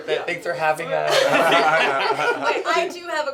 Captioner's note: laughter